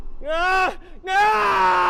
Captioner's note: yelling